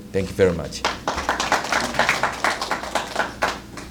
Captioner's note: applause